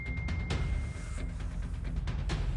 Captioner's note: incoming message